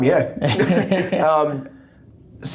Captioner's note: laughing